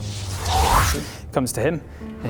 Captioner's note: whoosh